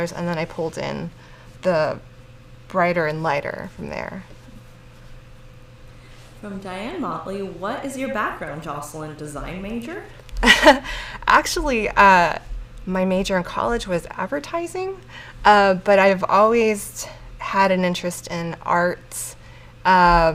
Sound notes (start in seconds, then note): 10.4 laughs